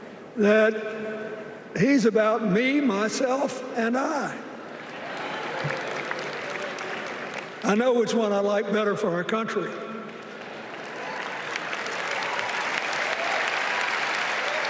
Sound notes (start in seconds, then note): 0.9 cheers and applause